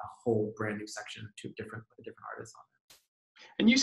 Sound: murmurs

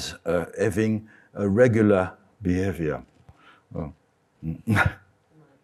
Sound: chuckles

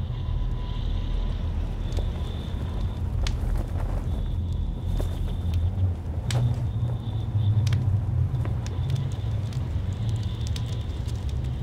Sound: fire crackles

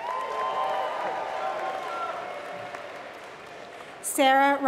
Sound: applause

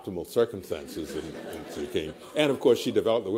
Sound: laughter

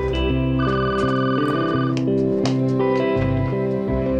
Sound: phone ringing

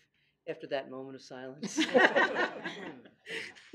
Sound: laughing

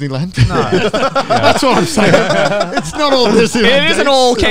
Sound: all laughing

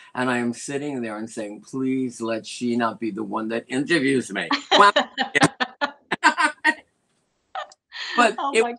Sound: laughter

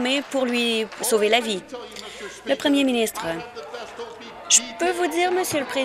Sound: applause

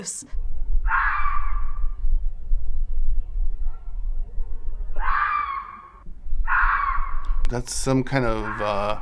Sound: animal screeches

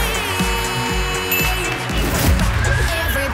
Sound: magical sound

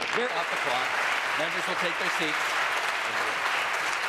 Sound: applause

